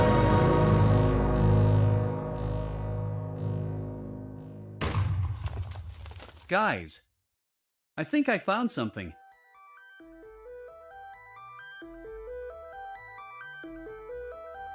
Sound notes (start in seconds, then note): 4.8 explosion